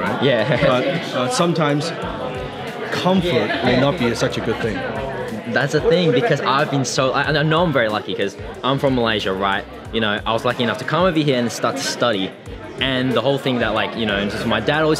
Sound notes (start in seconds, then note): 0.2 laughs